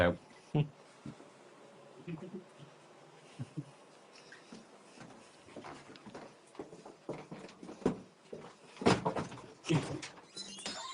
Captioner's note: chuckling